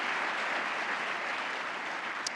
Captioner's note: applause